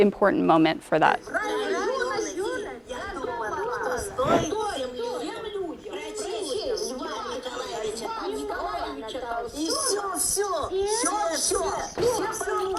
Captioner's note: women speaking in russian